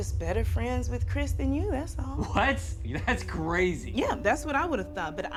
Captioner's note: laughs